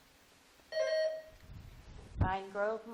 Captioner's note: buzzer dings